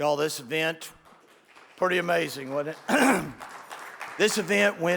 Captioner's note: audience applauds